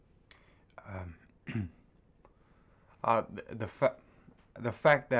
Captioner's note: clears throat